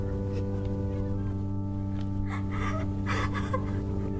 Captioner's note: cries